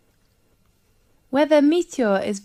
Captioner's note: 5 seconds pause